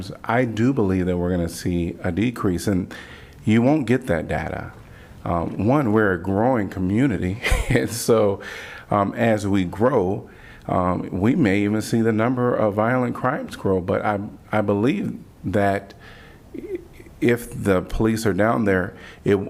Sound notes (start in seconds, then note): 7.4 laughter